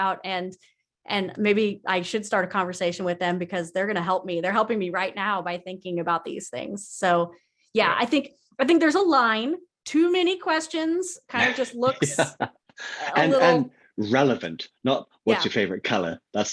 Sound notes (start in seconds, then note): 11.4 laughs; 15.3 laughs